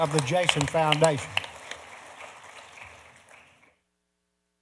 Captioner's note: applause